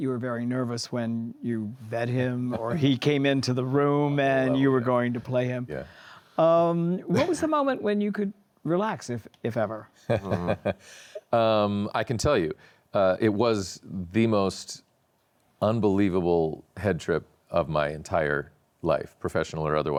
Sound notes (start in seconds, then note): 11.7 laughs